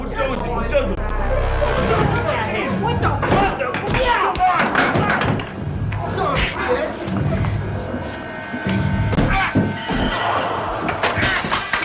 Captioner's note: assorted fight noises